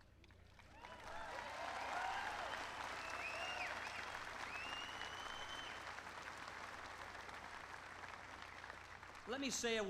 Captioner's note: applause